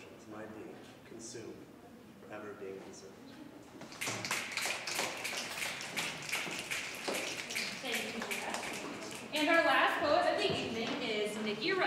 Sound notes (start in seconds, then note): 3.7 audience snapping